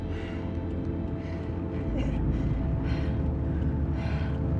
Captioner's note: heavy breathing